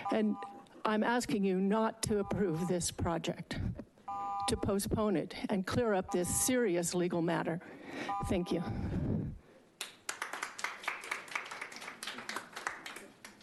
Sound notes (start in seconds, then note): 2.1 beeping; 6.0 beeping; 9.8 attendees applauding